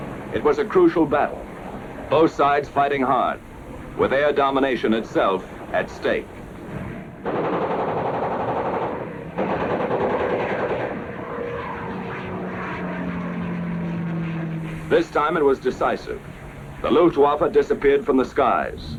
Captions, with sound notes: It was a crucial battle. Both sides fighting hard with air domination itself at stake. (aircraft engines and machine gun fire) This time it was decisive. The Luftwaffe disappeared from the skies,